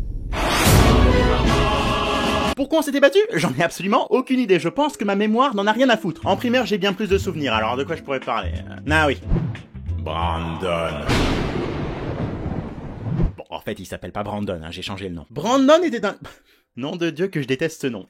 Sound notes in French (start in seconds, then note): 10.9 Bruit d'éclair